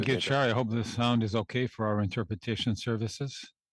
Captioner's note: speaking French